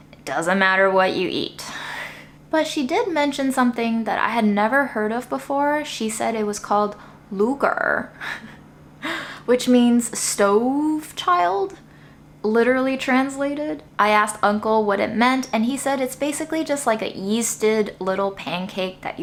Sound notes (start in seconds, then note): 8.7 laughs